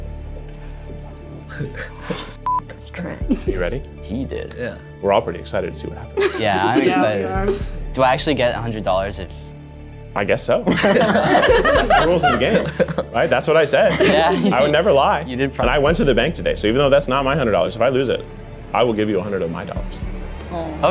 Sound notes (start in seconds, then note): 0.3 intens music; 10.6 audience laughs